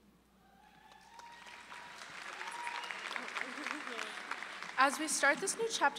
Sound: audience applauding

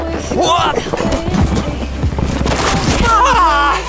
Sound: screams

